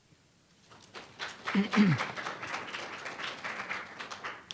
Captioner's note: audience applauds